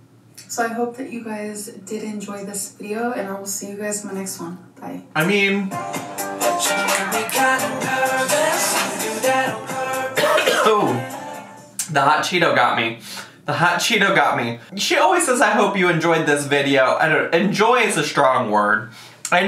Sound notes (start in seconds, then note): 5.6 upbeat music; 10.1 coughs